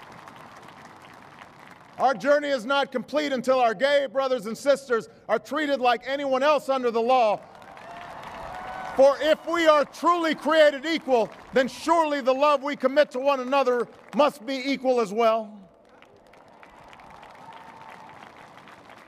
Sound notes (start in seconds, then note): 7.4 cheers and applause; 16.0 applause